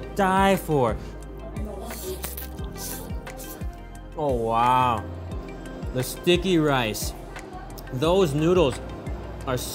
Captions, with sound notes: (slurping) Oh wow. The sticky rice, those noodles are so chewy.